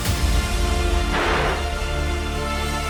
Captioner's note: gun firing